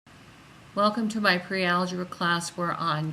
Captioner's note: voiceover